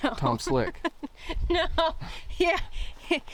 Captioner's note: laughing